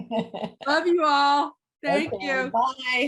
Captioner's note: laughing